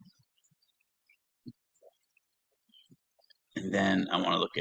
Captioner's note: silence